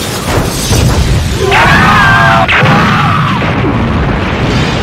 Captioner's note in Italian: grida di panico